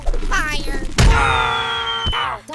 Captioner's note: scream